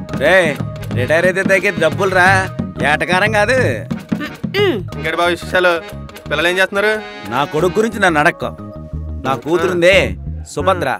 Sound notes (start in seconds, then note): 4.2 Nandan's mother scoffs